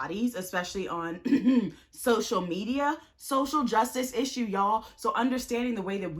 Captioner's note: clears throat